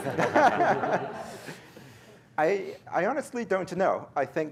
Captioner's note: laughter